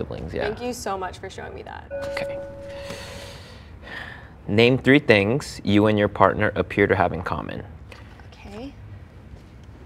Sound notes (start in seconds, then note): 1.9 bell chimes